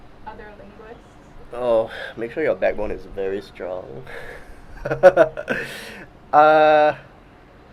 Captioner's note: laughs